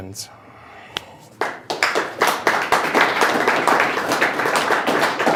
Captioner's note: audience clapping